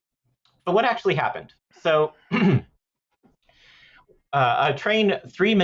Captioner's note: clears throat